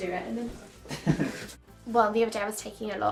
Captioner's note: laughing